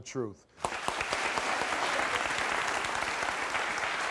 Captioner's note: audience applauds